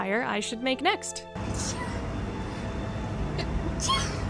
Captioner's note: achoo; achoo